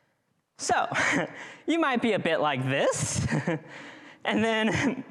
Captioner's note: chuckles